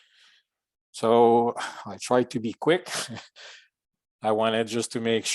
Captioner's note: chuckles